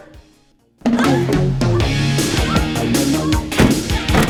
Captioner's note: gasps & Heavy Breathing